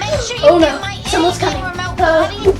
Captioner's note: gasps